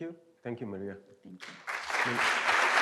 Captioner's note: applause